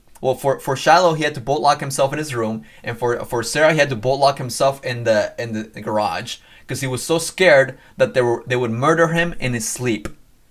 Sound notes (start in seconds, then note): none